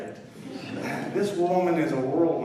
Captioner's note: laughter